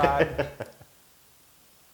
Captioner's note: laugh